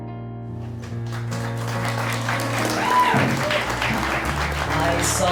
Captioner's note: applause